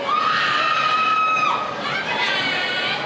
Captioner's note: cheering